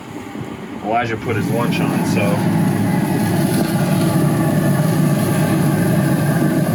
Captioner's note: grill roaring